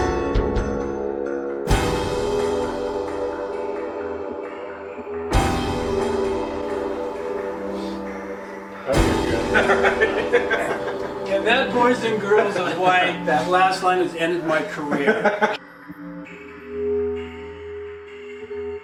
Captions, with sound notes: [laughter] And that, boys and girls, is why that last line has ended my career. [foreboding music]